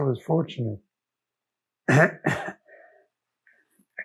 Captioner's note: clears throat